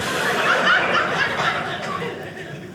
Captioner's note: audience laughing